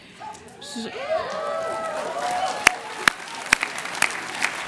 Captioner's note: cheers and applauese